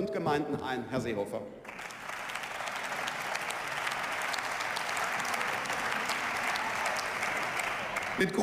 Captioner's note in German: Beifall